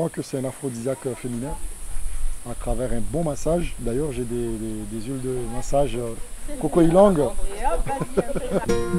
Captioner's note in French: rires